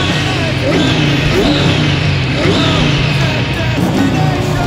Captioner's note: engine sputtering